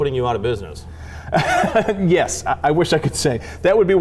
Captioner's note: laughs